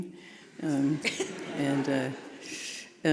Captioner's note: audience laughing